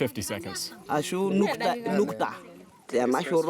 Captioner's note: speaking in native language